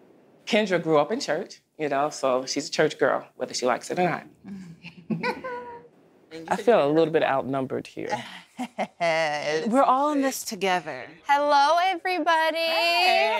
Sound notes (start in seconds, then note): 4.8 laughter; 8.1 laughs